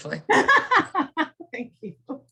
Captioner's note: laughing